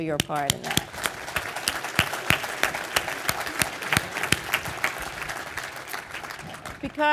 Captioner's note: applause